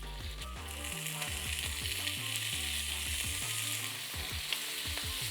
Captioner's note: sizzling sound